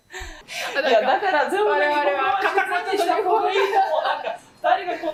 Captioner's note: laughing